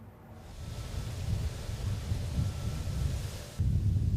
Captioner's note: wind blowing